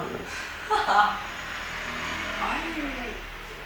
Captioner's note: laughing